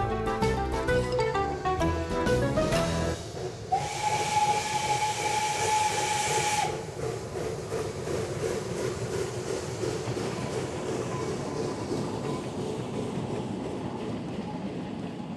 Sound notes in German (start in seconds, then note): 3.7 Zugpfeifen